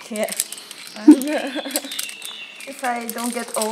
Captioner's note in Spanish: la risa